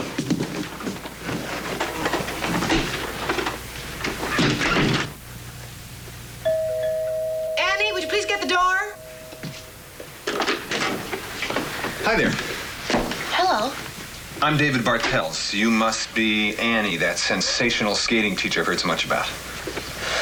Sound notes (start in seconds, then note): 6.4 doorbell ringing